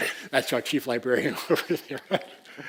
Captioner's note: laugh